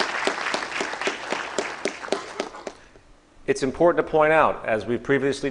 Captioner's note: applause